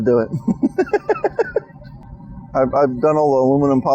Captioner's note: laughing